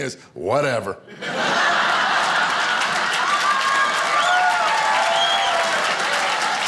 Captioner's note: audience applauding and cheering